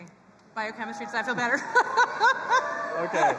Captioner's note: chuckles